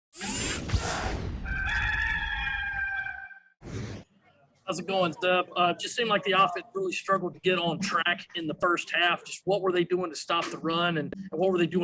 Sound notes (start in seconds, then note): 1.4 rooster crows